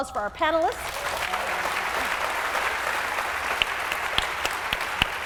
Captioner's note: applause